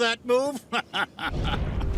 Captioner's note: laughing